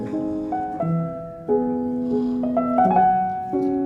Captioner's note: light snoring